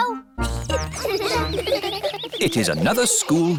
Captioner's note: children giggling